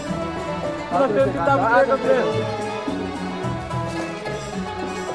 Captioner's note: people chattering